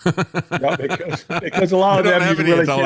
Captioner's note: laughing